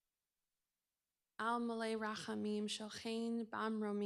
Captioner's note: non-english speech